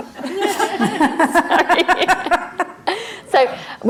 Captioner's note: crowd laughing